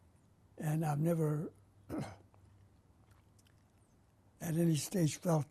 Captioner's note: pauses for 3 seconds